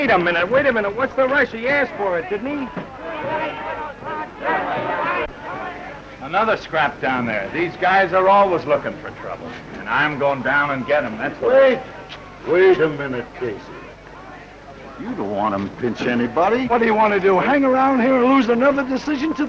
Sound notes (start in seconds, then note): 3.3 yelling